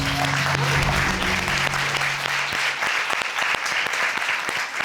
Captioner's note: crowd cheering